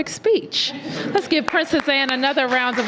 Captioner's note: laughter